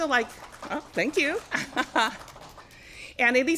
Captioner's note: applause